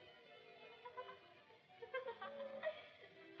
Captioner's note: laughs